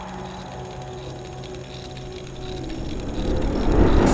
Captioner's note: gears ticking